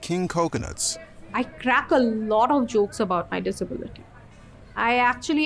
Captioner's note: busy street, cars, people talking